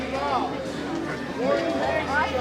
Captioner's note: crowd chatter